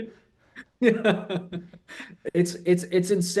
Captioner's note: laughs